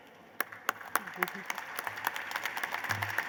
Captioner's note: applause